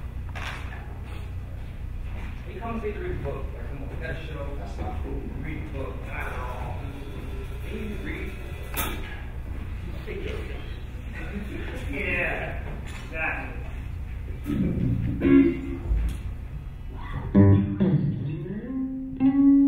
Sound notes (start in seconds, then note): 14.2 laughing; 15.5 guitar music